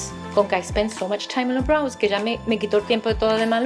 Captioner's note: speaks foreign language